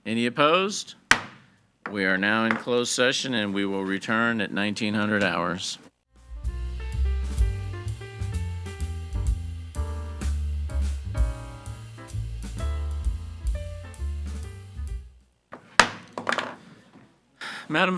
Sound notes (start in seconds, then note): 1.1 gavel thuds; 6.4 gentle upbeat music; 15.5 gavel thuds